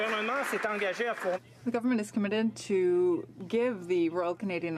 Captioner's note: some Applause